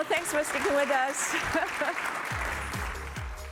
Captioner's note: applause